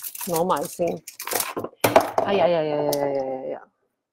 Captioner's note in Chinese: 攞石鏈雜聲…